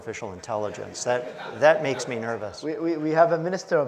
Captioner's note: audience laughs